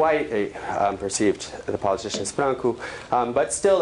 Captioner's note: non-english